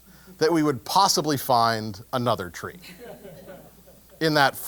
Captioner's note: laugh